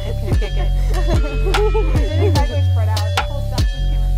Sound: upbeat hiphop music continues; women laughing

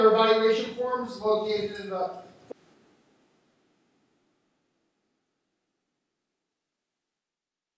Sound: audio cuts

